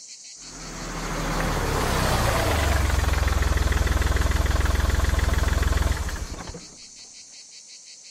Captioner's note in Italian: motore furgone